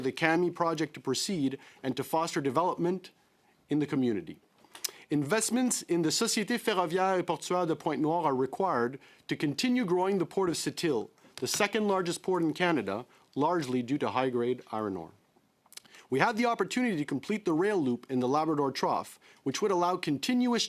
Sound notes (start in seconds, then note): 10.5 speaking French